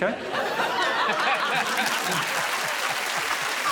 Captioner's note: all laughing; applause